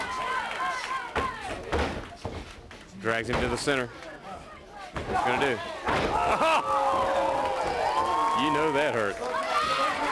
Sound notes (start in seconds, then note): 0.1 crowd chatter